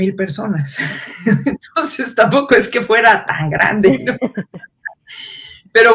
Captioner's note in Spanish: ríe